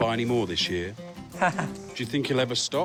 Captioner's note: laughs